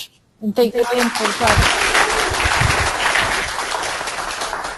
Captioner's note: audience applauding